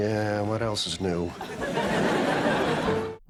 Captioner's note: audience laughter